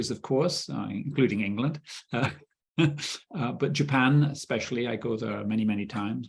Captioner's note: chuckling